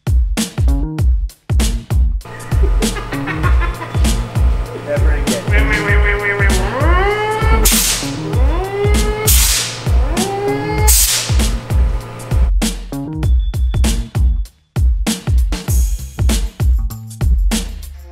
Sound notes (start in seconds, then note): 2.3 laughing; 6.5 high pressure hose blows; 9.0 high pressure hose blows